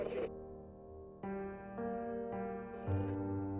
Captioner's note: mysterious music; static crackling